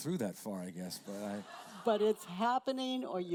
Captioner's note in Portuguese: risos da plateia